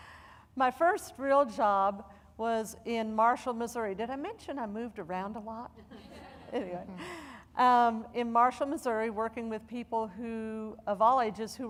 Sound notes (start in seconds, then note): 5.8 audience laughing